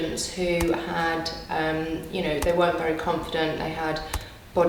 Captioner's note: keyboard typing